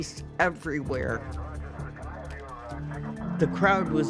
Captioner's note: camera shutter clicking, police radio running